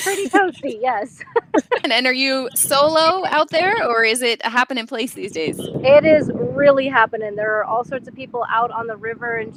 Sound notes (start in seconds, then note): 1.0 laughing